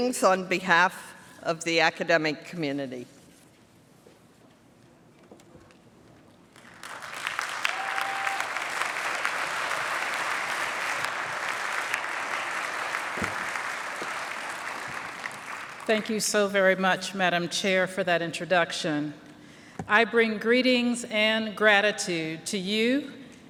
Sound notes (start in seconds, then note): 6.5 applause